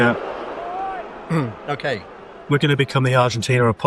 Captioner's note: clears throat